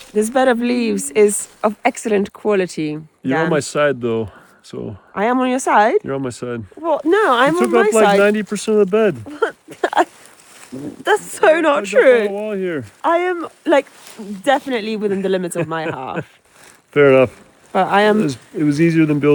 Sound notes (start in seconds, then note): 9.2 laughs